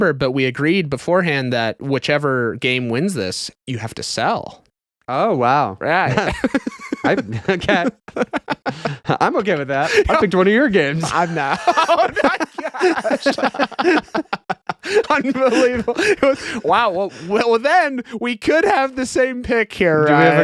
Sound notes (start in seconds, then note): 6.9 laughing; 13.4 laughing